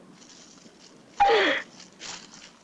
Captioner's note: squealing